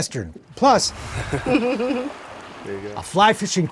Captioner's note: people giggling